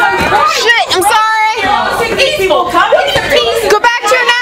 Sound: angry yelling

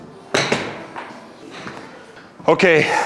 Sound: ball thuds

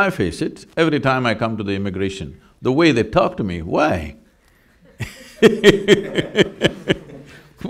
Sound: laughs

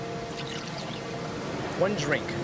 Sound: liquid pouring

